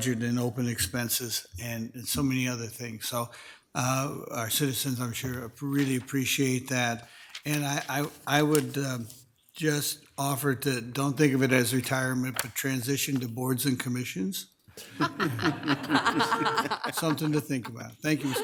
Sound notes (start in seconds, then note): 14.8 attendees laughing